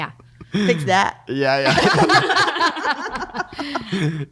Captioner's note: laughing